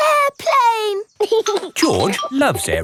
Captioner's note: giggling